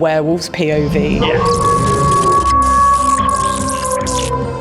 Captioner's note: werewolf howling